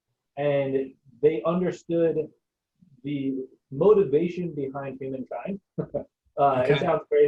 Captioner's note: chuckling